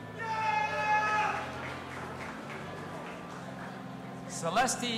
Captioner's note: audience applauding and cheering